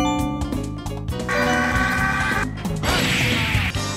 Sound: rahhhhhh!

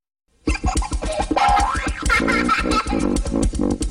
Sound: kid laughing

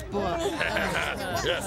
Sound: chuckles

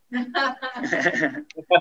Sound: laughter

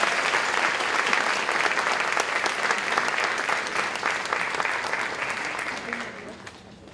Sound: applause

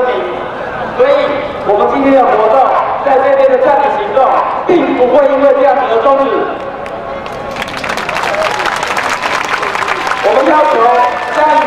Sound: clapping

